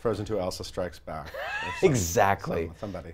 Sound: laughs

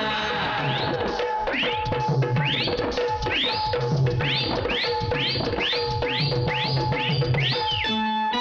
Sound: whistling

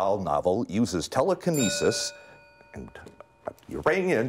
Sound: bell rings

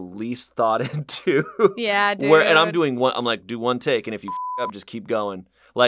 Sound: laughs; beep

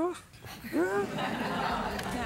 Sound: laughter

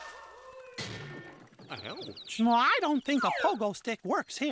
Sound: crash

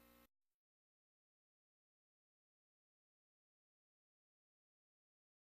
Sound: silence

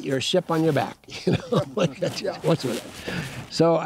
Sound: laughing

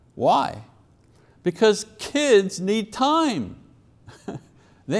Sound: chuckles

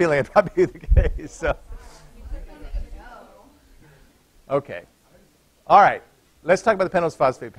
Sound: laughter

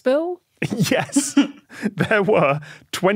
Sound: snickers

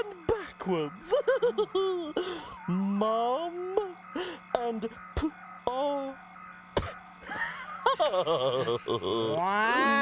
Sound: sounds out "pop"; laughs

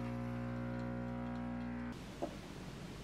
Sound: coffee machine running

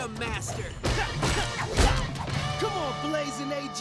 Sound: grunting

